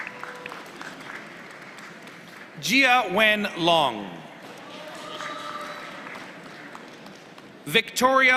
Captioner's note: applause; applause